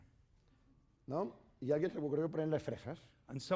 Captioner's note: speaking spanish